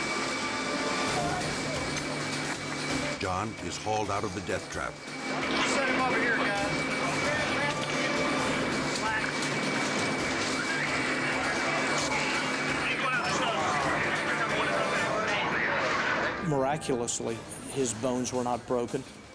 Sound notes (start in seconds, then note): 0.1 dramatic music; 8.1 machine whirs; 12.5 rescuer faintly speaks